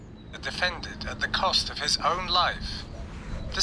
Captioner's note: audio guide plays